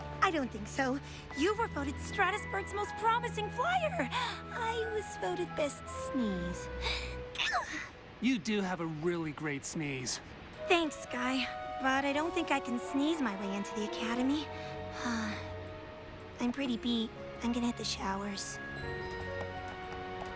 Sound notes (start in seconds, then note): 7.3 sneezes; 14.5 sighs